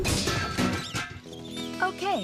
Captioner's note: metal Clanging